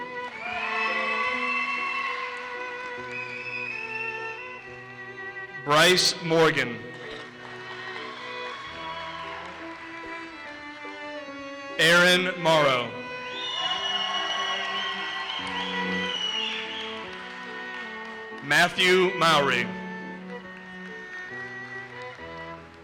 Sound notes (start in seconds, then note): 0.0 audience cheers and applauses; 7.1 audience cheers and applauses; 11.9 audience cheers and applauses; 20.1 audience applauses